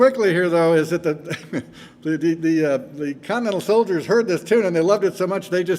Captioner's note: chuckles